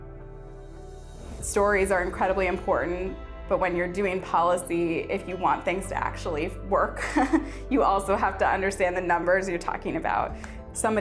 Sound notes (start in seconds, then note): 7.0 chuckling